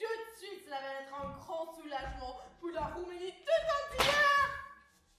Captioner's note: thud